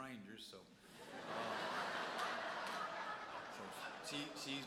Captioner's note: audience laughs